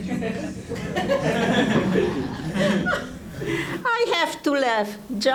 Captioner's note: audience laughing